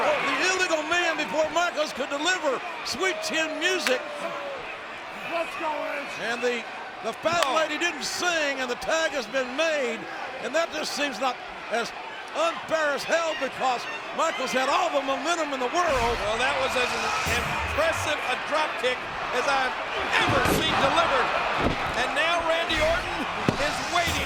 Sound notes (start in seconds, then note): 7.2 hands clapping; 15.9 blows thudding; 15.9 graphics whooshing